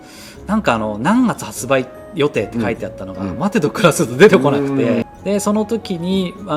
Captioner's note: laughs